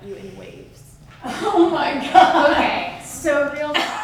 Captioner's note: laughs